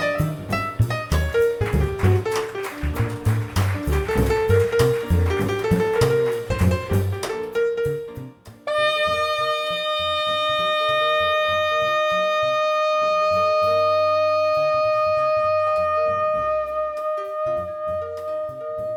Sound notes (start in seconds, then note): 0.0 combo continues; 2.9 applause; 8.7 combo continues under saxophone